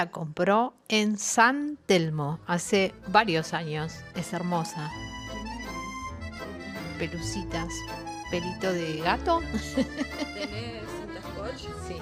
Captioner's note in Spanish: risas